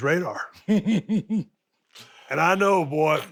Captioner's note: Dallas laughs